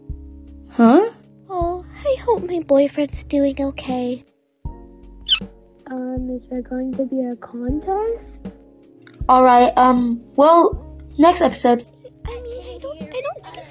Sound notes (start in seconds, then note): 5.2 squeaks angrily